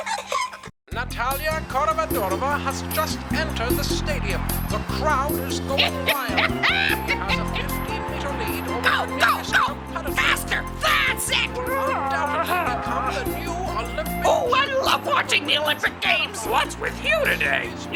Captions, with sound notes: - Natalia Coramadorima has just entered the stadium. The crowd is going wild. (The Witch laughs) At a 15 meter lead-- - Go, go, go! Faster! That's it! - Become the new Olympic-- - Oh, I love watching the Olympic Games! - What's with you today?